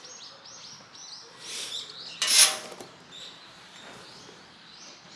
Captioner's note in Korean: 새소리가 참 반갑게 느껴지네요